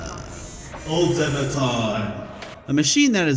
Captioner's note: in an epic voice